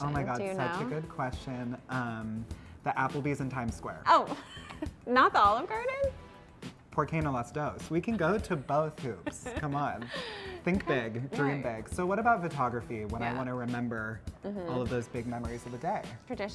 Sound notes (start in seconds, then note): 4.5 laughs; 6.4 speaking in Spanish; 8.0 laughs